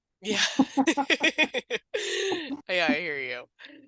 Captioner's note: laughing